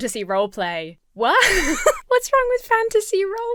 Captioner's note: laughs